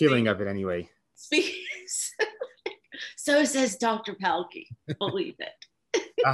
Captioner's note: laughs